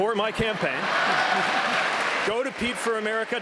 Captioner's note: applause